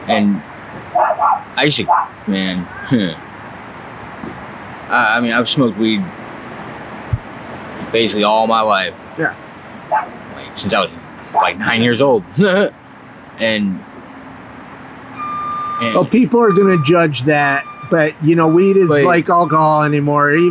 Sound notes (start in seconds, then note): 2.9 chuckles; 11.3 chuckles